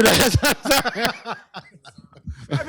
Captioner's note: laughter